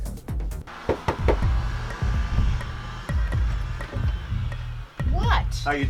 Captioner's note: knuckles rapping; suspenseful music